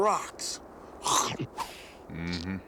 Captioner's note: chomps